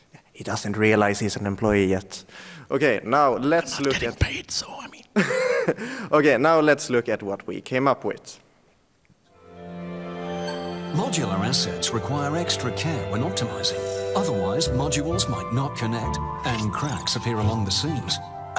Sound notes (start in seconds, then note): 6.1 laughs